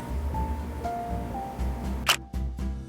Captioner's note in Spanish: camera shutter